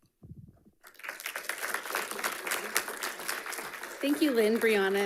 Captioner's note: audience applauding